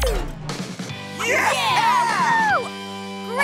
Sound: cheering

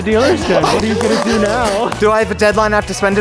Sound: hyperventilating

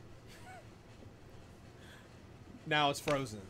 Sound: laughs

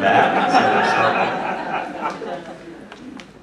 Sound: laughing

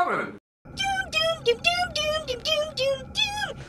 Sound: high pitched voice

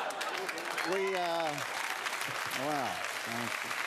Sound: laughter; cheers and applause

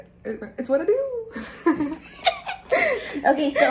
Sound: laughs

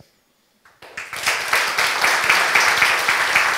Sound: applause

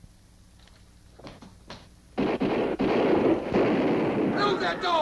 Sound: guns firing

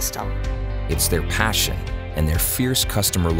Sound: voiceover

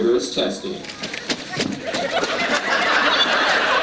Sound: audience laughs

